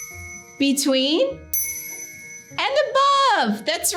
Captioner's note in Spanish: sonido de campana